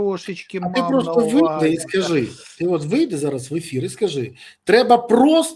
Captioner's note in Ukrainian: сопіння